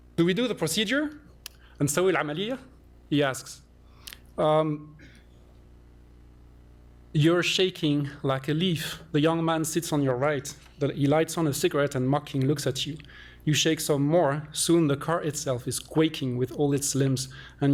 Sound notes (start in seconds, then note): 2.3 non-english